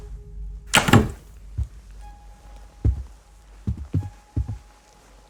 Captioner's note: doorknob clicking